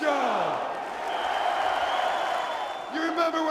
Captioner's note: audience cheering